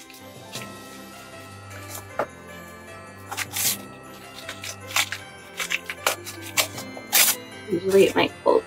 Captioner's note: tearing paper